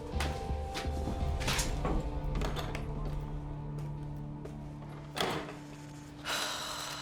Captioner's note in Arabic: موسيقى متوترة; الباب يفتح، يغلق; تتنهد بيكي